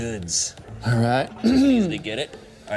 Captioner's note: clears throat